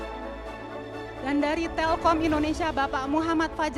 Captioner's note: speaking indonesian